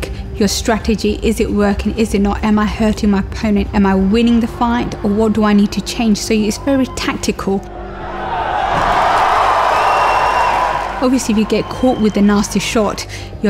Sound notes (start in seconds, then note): 7.7 crowd cheers